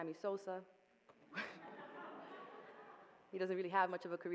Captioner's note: audience laughing